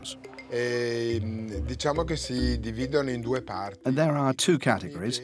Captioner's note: Italian spoken audio